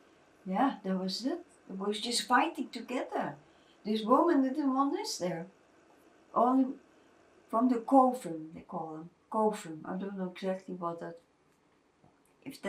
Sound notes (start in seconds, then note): 7.1 non-english